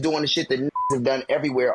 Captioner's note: beep